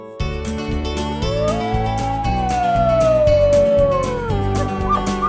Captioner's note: wolf howling; elk bugling